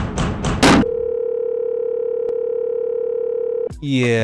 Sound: test screen beeping

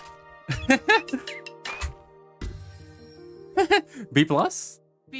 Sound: laughs

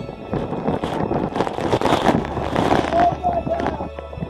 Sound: wind whipping; rain pounding

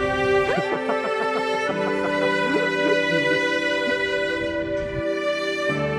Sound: laughs

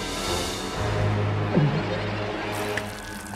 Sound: gulps

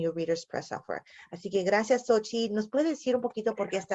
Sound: speaking spanish

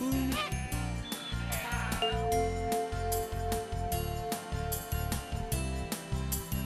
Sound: bell chimes

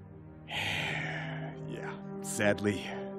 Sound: sighing

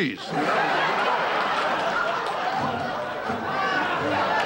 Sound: audience laughter

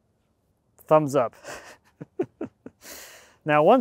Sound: laughs

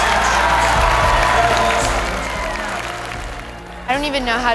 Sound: audience applauds

